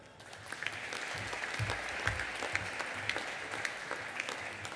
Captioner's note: audience applauding